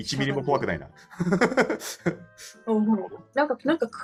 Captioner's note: laugh